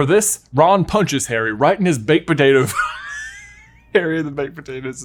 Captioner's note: laughs